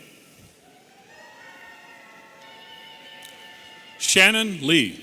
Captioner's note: audience cheering